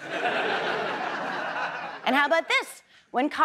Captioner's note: audience laughs